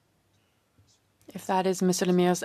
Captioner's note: speaking French